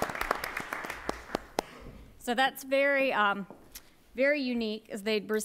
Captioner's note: applause